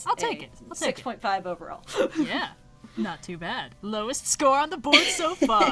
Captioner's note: laughs